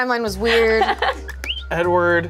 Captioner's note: laughs